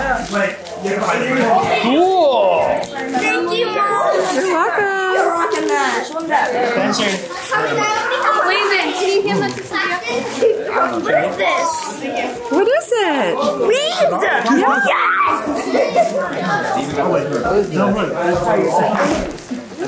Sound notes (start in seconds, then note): 0.3 family chatters excitedly; 7.3 family chatters excitedly; 12.4 family chatters excitedly; 14.4 laughs; 16.6 family chatters excitedly